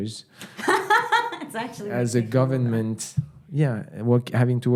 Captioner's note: laughing